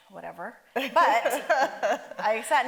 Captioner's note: Dolores laughs